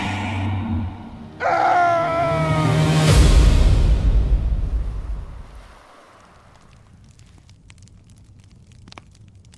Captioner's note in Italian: Applauso